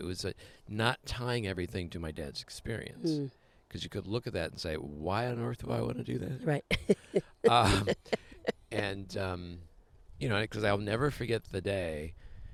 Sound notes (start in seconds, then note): 6.7 laughs